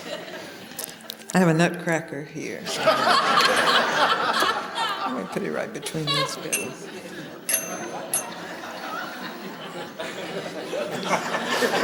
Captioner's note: laughter